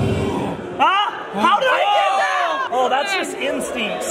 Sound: screams

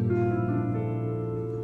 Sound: none

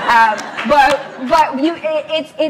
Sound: laughs

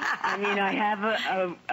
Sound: laughter

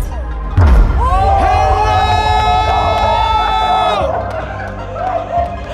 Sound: crowd cheering and applauding

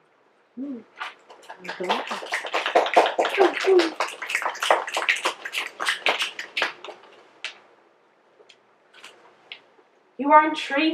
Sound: mmm, applause and snaps

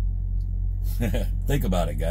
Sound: laughs

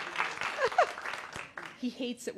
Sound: applause

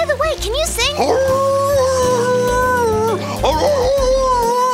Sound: dog howling

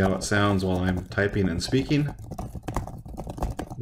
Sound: typing by itself

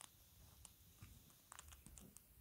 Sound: crunchy noises

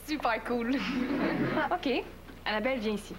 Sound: Rires

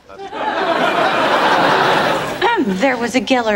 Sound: audience laughing

